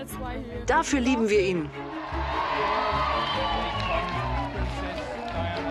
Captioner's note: crowd cheering